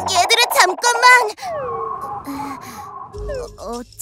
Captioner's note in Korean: 휘릭휘릭, 화면 효과음; 휘위잉, 화면 효과음; 어어, 달의 당황한 숨소리